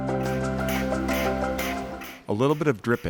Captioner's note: machinery clicking